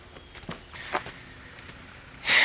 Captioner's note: sigh